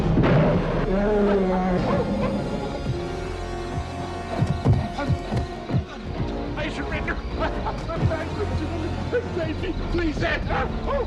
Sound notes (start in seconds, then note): 0.3 bear roars; 4.4 feet pounding; 10.8 Hezekiah yelping